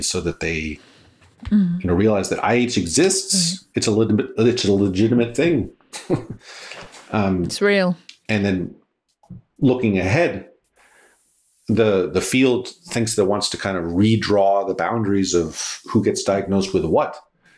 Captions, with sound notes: so that they, you know, realize that IH exists. It's a legitimate thing. (laughs) - It's real. - And then looking ahead, the field thinks that wants to kind of redraw the boundaries of who gets diagnosed with what,